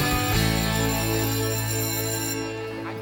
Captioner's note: bell ringing